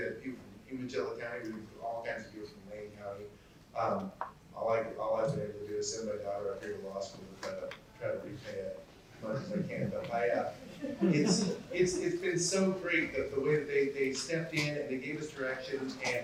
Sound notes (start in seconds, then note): 10.7 chuckle